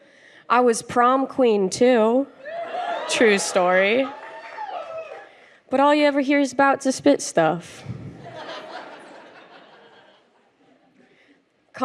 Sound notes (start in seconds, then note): 2.4 crowd cheers; 8.1 laughter